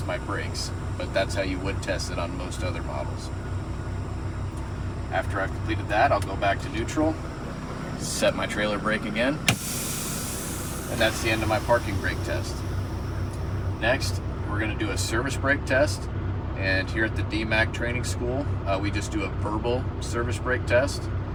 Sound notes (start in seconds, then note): 9.4 air brake